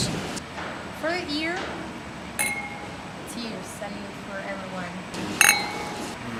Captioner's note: clinks glasses